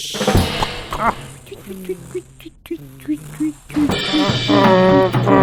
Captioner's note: engine slowing down; lorry honking